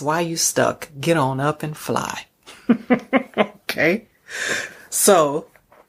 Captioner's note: chuckles